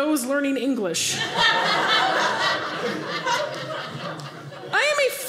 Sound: audience laughing

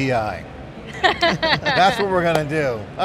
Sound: laughing

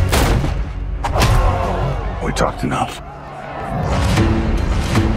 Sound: crowd gasps

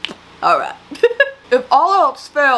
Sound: laughing

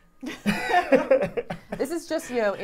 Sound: laughing

